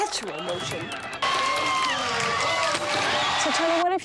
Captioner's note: cheering